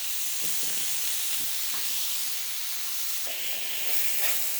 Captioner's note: sizzling